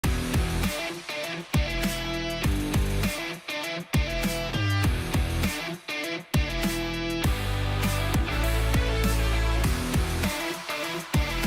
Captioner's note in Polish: Aplauz